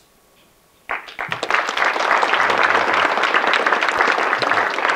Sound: audience clapping

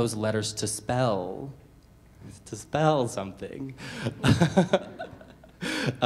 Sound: laughs

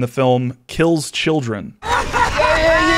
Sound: laughter

